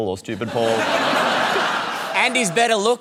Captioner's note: laughter